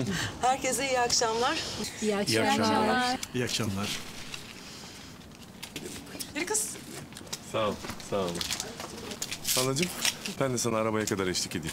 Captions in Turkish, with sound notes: Herkese iyi akşamlar. -(Hep bir ağızdan) İyi akşamlar. -İyi akşamlar. Yürü kız! Halacığım, ben de sana arabaya kadar eşlik edeyim.